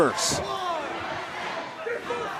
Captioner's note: fans chanting